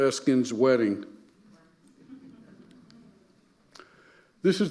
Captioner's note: audience murmuring and laughing